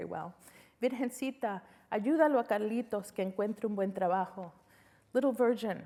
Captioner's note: speaking spanish